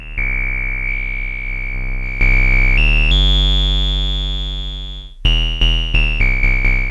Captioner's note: beeping